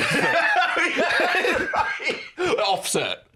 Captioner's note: laughing